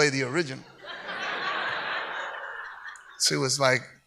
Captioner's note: audience laughs